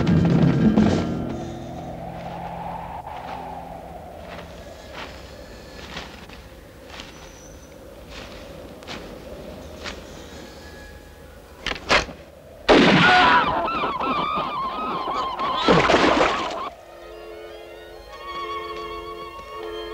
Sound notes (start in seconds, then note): 11.0 gun clicks; 12.7 gun firing; 13.0 cries out; 16.7 gentle music